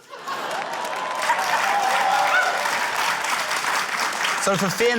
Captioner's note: laughter, cheering, applause